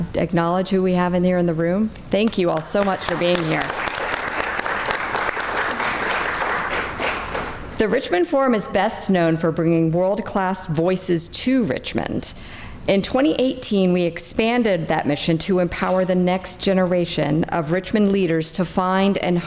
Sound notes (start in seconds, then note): 5.7 crowd clapping